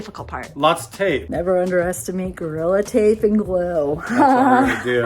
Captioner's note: laughing